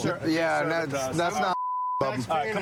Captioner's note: chatter